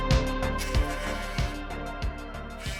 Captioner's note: cell phone vibrating; music fades